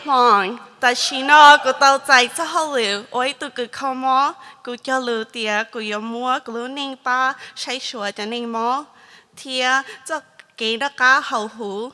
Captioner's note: speaking hmong